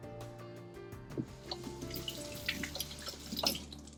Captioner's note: sound of running water